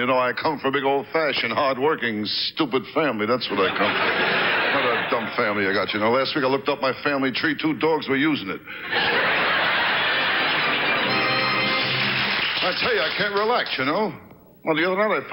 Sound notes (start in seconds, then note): 3.5 audience laughs; 8.8 audience laughs; 10.2 orchestra riffs